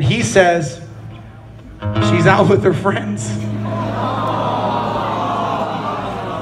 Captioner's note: crowd 'Awes'